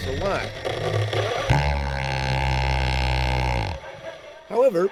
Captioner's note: drilling